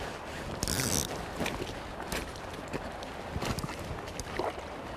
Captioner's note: walking